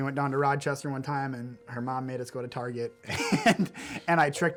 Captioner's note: laughs